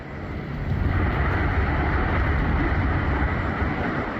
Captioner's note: tornado roars